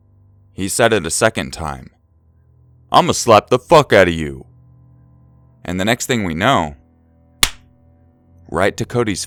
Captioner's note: slap